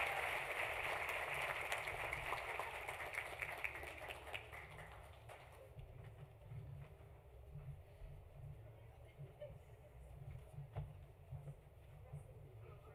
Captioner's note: applause